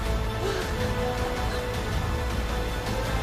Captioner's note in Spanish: Quejidos